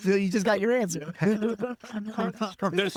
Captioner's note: laughing